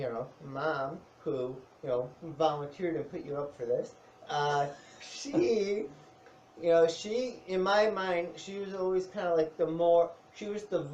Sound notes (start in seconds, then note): 5.0 laughs